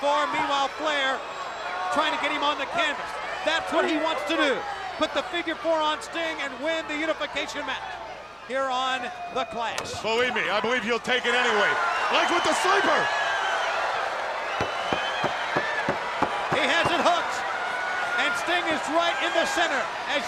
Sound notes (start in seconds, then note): 13.5 crowd cheering; 14.6 Sherri thudding on ring